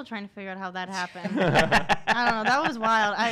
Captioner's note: laughing